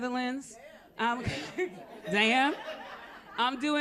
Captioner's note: laughter